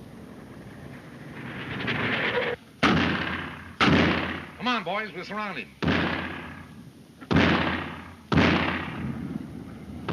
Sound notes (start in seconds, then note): 2.8 gun firing; 7.2 gun firing